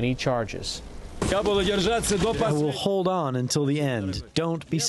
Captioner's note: through translator